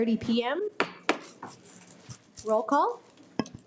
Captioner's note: gravel bangs